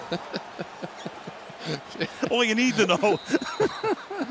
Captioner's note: laughs